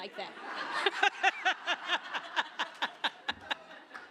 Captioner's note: laughter